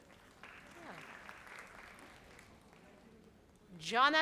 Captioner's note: audience applauds